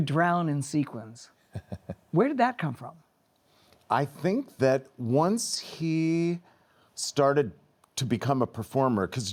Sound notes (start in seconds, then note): 1.5 laughs